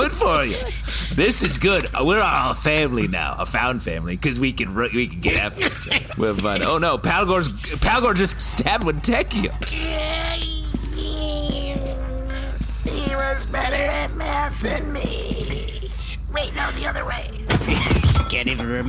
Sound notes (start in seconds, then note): 0.0 laughing; 6.2 stab sound, Wentecchio starts choking; 11.8 wheezing